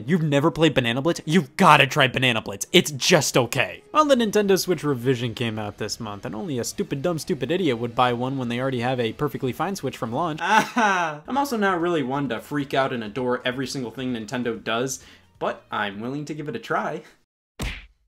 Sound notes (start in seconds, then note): 10.4 forced laughing